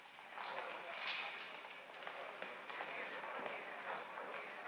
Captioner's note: all chattering